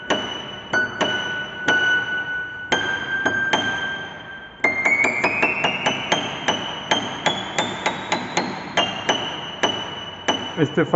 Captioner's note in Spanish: campana